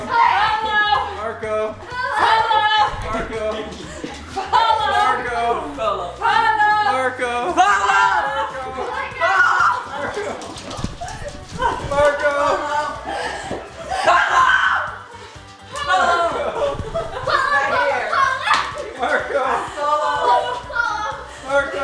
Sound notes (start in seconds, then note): 14.0 screaming